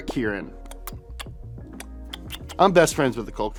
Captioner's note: smacking